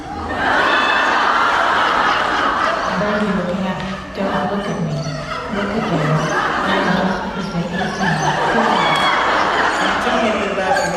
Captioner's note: audience Roars with laughter